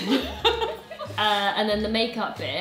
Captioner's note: both laughing